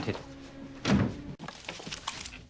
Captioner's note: thud; guns clicking